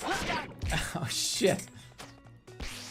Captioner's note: chuckles